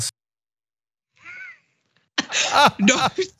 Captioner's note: laugh